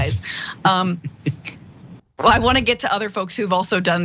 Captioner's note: laugh